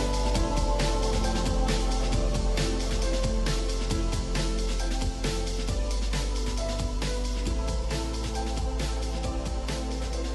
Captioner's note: banging